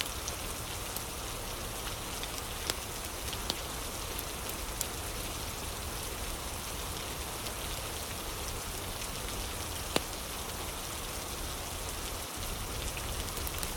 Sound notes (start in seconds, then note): 0.0 fire crackling